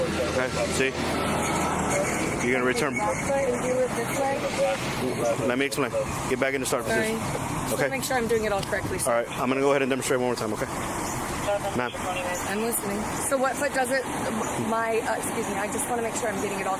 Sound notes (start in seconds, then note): 11.4 radio chatter